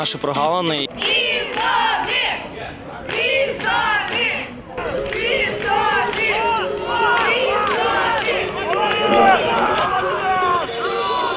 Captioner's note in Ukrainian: Вигуки вболівальників: «Бізони»!